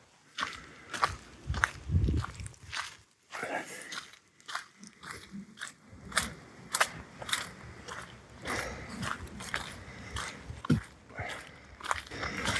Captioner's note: footsteps and Birds Tweeting